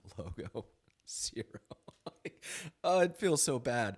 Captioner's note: laughs